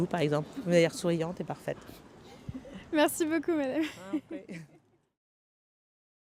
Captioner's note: laughter